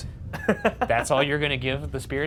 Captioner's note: laughing